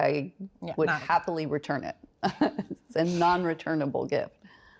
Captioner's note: chuckles